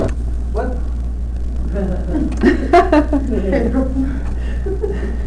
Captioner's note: laughter